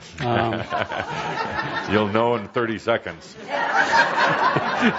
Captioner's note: chuckling; laughter; more laughter